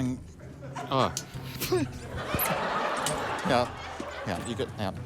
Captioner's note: laughter; giggles